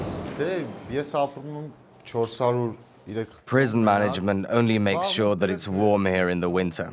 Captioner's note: voiceover